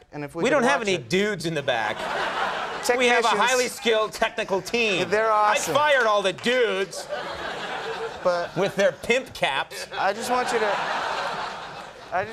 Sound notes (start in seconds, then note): 2.0 crowd laughing; 7.4 crowd laughing; 11.1 crowd laughing